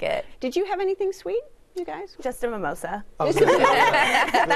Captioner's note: laughter